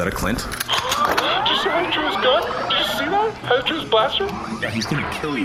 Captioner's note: fangirling; flatly